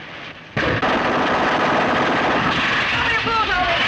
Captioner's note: gunshots